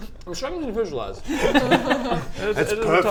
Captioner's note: laughs